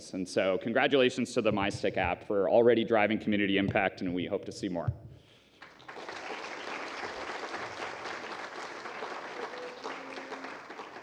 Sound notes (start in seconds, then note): 5.6 applause